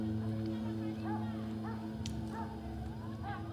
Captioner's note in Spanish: ladridos